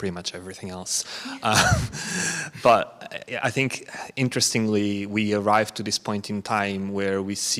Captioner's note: chuckles